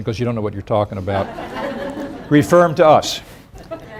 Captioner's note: crowd laughs